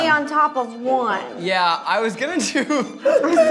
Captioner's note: laughs